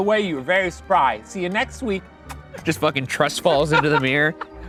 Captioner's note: kisses